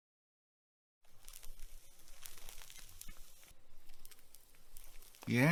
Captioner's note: cigarette burning sounds